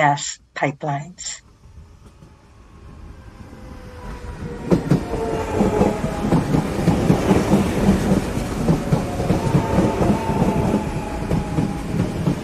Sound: rhythmic sounds of electric train pulling into station

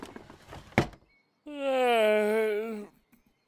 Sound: dresser drawer closing; yawns

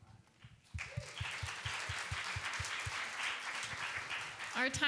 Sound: applause

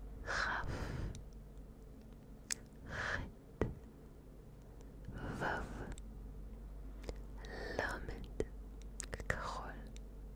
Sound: whispering the letters in Hebrew

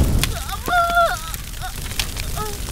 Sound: screams

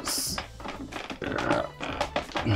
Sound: Grunts in Lithuanian

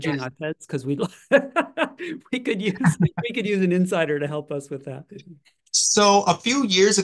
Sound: laugh

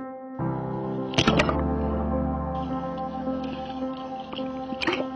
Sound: water splashing

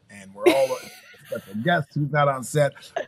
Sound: laughing

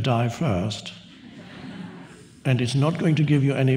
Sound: audience laughs

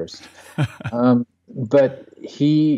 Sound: laughs

